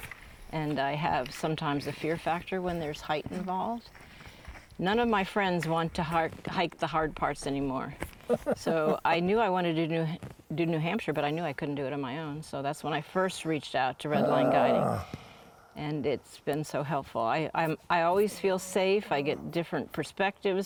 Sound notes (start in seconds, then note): 3.5 footsteps